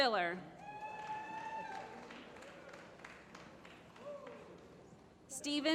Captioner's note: applause